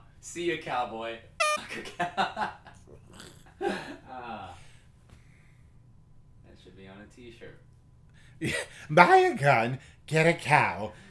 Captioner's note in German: lacht